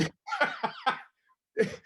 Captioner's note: laughs